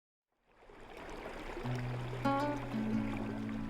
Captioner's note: water rustling; sombre piano music